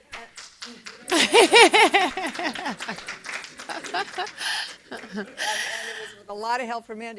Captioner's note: applause